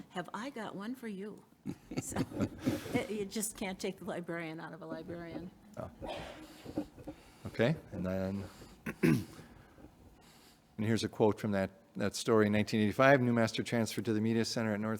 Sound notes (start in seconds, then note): 1.6 everyone chuckling; 8.4 clears throat